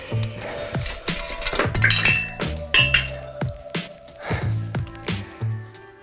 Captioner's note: upbeat music; metal clanking; gears rattling